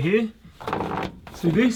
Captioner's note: groaning